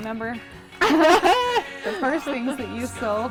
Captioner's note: laughs